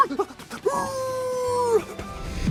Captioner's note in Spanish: Imita ladridos y jadeos de perro; Dog Man aúlla de felicidad